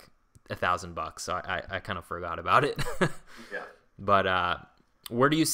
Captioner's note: laughs